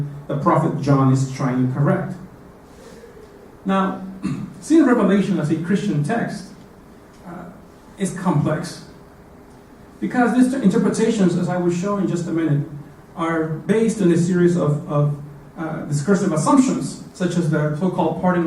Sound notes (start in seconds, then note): 4.2 cough